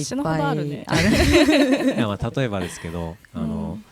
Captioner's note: laughs